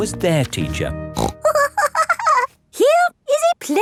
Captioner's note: snorts and giggles